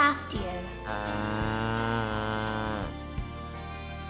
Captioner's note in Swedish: kalv stönande